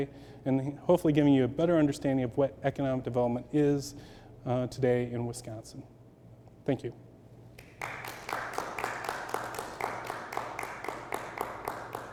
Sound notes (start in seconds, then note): 7.6 audience applauds